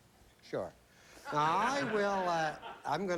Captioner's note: laughter